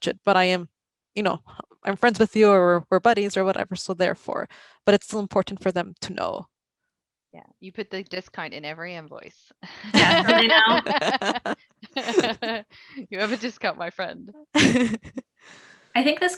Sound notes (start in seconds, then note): 9.9 both laughing